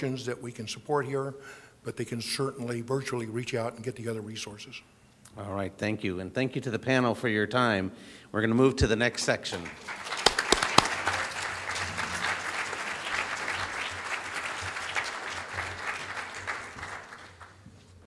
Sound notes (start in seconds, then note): 9.5 audience applauding